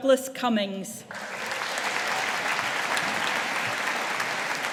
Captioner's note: audience applauding